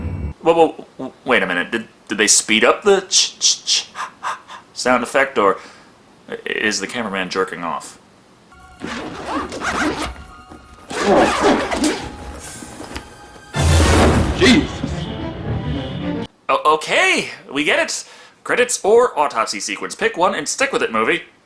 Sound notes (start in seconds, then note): 8.8 zipper noise